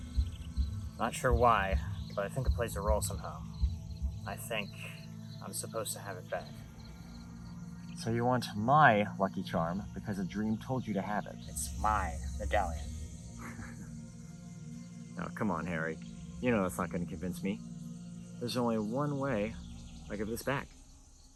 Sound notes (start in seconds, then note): 13.3 laughs